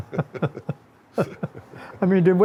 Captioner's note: both chuckle